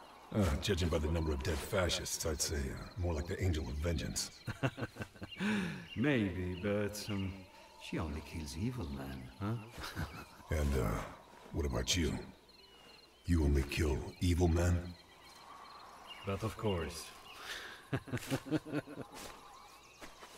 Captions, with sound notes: Oh, judging by the number of dead fascists, I'd say more like the Angel of Vengenace... [LAUGH] Maybe. But, um, she kills only evil men, huh? [CHUCKLE] And, uh, what about you? You only kill evil men? But of course. [LAUGH]